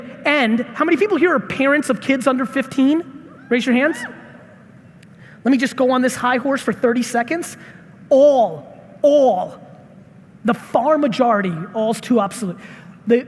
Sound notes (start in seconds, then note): none